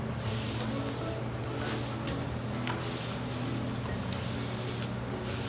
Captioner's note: ingredients mixing